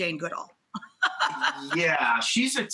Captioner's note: laughs